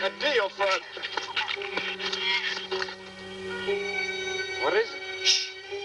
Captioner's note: shrews squeaking